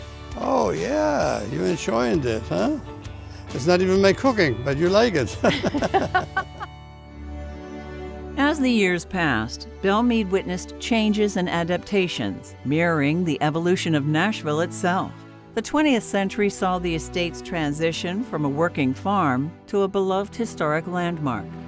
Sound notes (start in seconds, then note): 5.3 laughs; 7.0 stately music